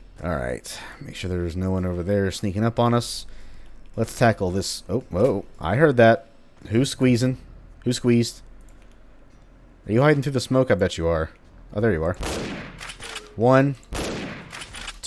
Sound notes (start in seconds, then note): 13.9 bam